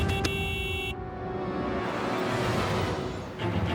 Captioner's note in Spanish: Claxon